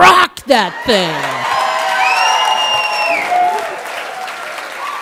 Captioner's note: audience applauds